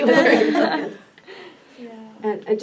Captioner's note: all laugh